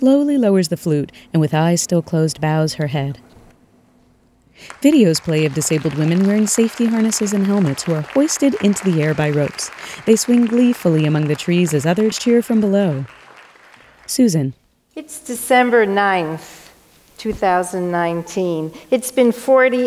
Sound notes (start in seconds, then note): 4.6 applause